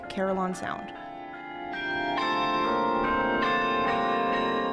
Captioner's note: bells chiming